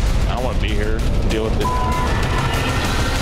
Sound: beep

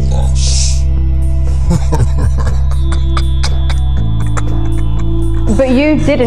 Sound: laughter

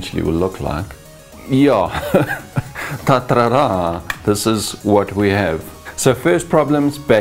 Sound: laughs

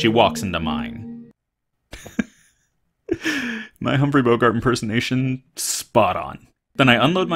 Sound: laughing

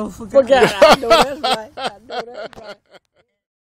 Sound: laughing

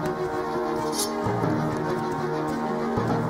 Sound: sword unsheathed

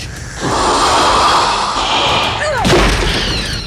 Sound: alien hissing

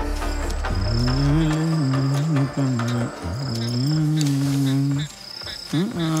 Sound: humming a song

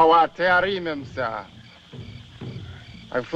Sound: speaking African Language

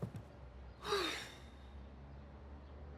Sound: exhaling

